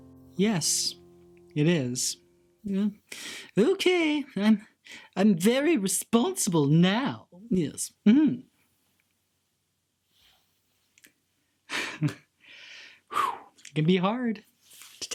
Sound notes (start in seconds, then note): 2.9 sighs; 11.9 laughs